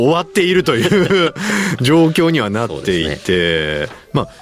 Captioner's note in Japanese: 笑い